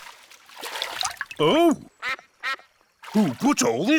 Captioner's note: quacks